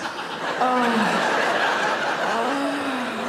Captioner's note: audience laughs